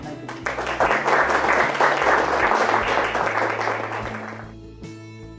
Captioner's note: audience applause